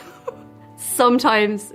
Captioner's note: laughs